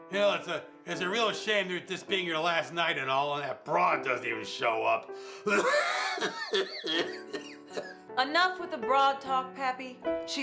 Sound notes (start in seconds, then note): 5.4 coughing